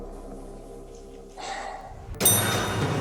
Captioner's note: audio logo; sighs